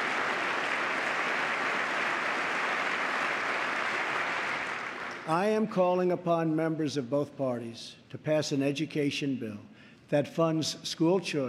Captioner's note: applause